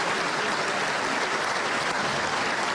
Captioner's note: applause